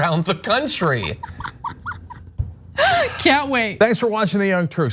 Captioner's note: laugh